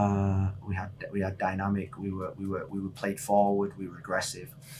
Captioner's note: none